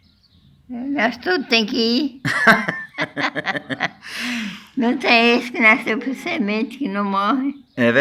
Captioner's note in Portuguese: risos